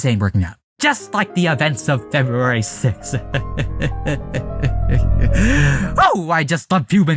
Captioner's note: evil laughter……